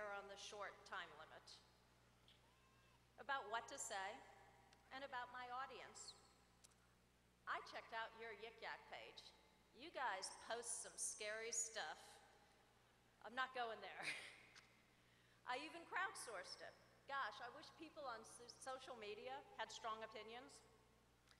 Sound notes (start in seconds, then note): 14.0 laughter